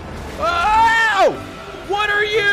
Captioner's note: screams